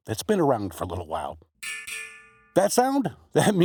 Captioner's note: ding Ding